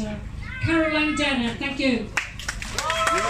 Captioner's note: clapping, cheering